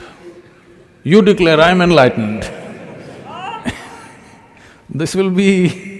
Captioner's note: laughter